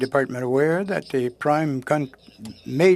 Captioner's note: speaking French